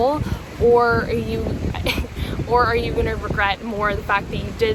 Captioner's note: laughing